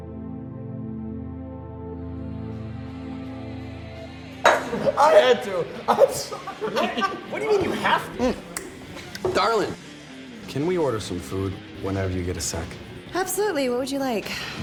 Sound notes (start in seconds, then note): 4.4 bar noise resumes; 8.5 snaps fingers